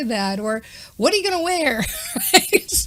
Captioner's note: chuckles